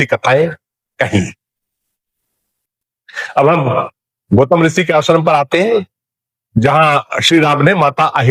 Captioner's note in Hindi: गला साफ़ करने की आवाज़